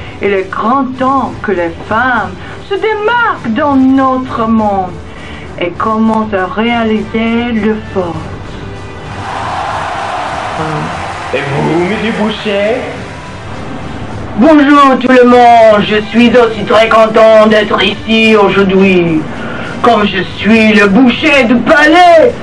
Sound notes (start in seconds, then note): 9.0 cheering